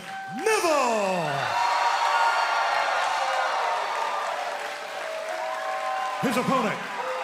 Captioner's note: crowd cheering